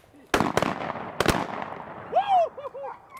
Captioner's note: gun shots